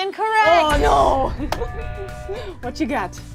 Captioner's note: buzzer buzzes